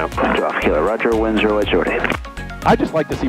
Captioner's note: radio murmuring